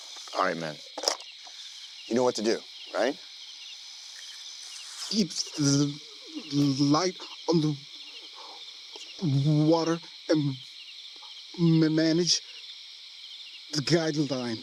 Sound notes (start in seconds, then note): 5.6 stuttering